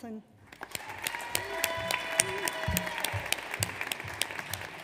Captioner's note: audience applauds